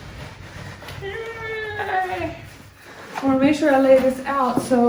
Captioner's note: woman yells